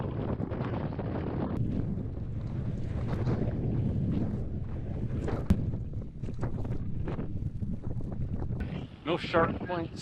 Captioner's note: wind blowing